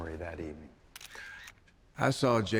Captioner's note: camera click sound